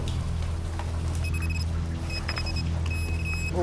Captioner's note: beeping rapidly